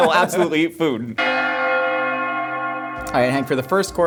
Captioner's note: bells Ringing